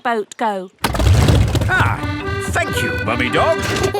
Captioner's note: boat engine revs; kids giggling